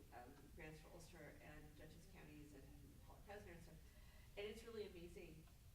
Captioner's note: stammers